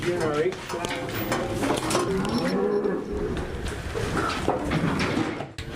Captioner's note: cattle sounds